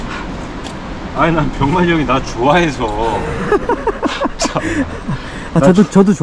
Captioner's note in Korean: 웃음